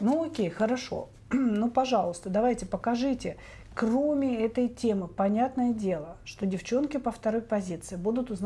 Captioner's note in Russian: откашливается